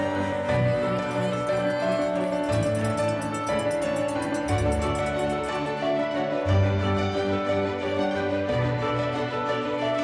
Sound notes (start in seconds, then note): 2.2 bell ringing